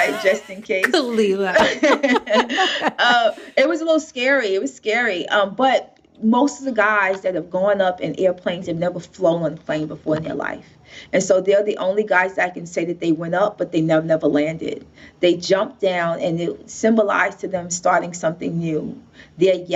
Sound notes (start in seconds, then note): 0.0 laughing